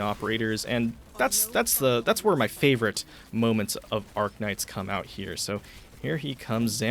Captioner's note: stuttering